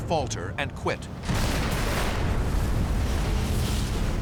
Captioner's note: explosions